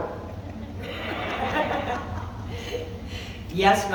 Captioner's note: laughs